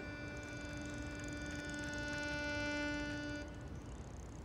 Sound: wheels whirring

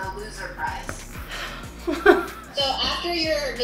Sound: laughs

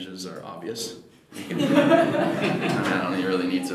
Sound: audience laughing

